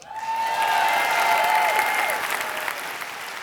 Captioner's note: applause